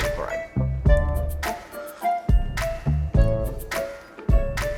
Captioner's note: water slurping